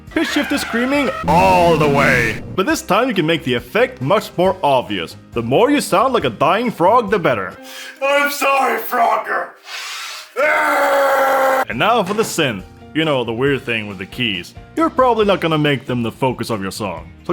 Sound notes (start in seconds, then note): 9.6 sniff; 10.3 scream